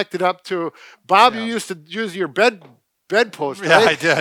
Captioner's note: laughs